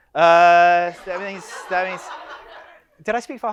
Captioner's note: audience laughs